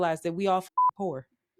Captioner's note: beep